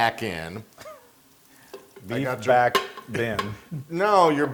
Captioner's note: laugh